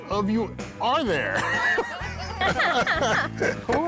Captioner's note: laughing